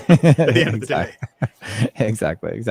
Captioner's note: laughing